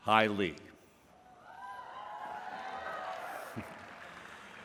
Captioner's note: applause and cheering